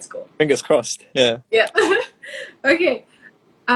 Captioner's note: laughs